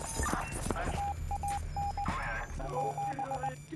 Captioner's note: beeping